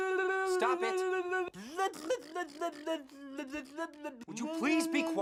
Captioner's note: Annoying Orange babbling